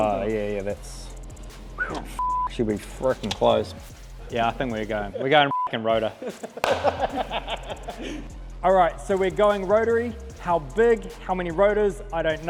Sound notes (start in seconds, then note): 1.8 beep; 5.4 beep; 6.0 mechanics laugh; 6.3 hands clap